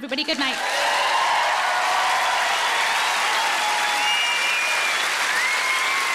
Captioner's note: audience cheering and applauding